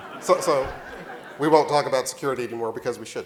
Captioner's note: laughing